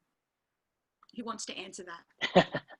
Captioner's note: laughs